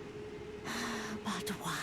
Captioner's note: deep sigh